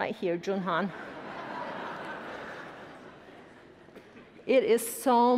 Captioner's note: attendees laughing